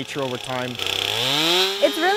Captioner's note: chainsaw noise